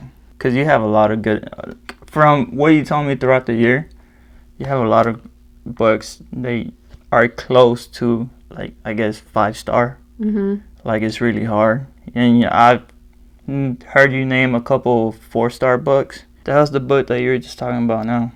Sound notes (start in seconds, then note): none